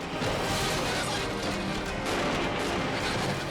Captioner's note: cars crashing